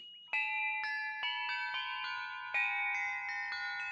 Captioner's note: bells ringing